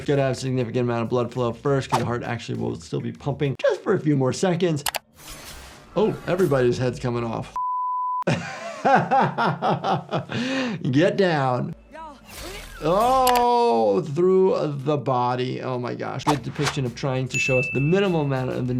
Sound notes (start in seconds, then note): 7.5 beep; 8.2 laughs; 12.4 character exclaims